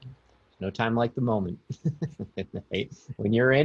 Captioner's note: chuckling